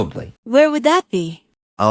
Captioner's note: curiously